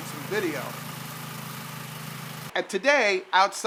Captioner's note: snow blower engine running